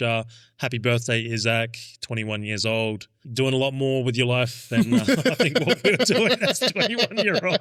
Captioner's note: laughing